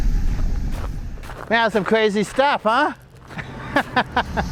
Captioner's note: laughs